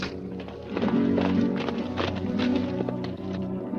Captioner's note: hooves clop